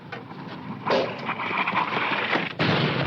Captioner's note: rustling winds; bomb exploding